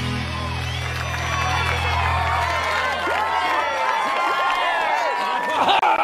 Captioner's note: cheering